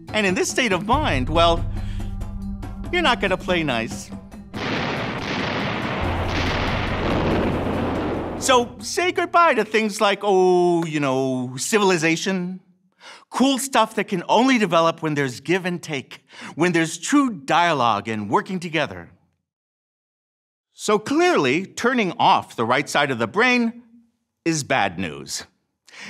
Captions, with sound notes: And in this state of mind, well, you're not gonna play nice. (artillery booms) (explosion booms) So say goodbye to things like, oh, you know, civilization. Cool stuff that can only develop when there's give-and-take, when there's true dialogue and working together. So clearly, turning off the right side of the brain is bad news.